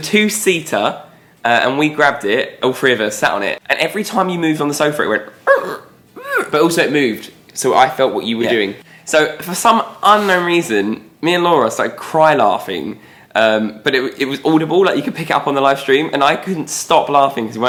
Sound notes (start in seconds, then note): 6.3 squeaks